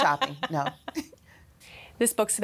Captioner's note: mutual laughter